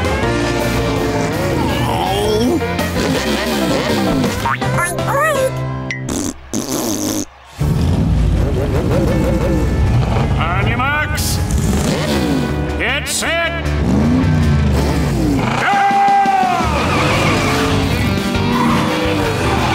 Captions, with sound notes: [groaning] [oinking] [fart noises] On your marks, get set... Go!